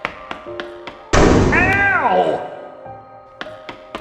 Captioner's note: footsteps; loud metallic banging noise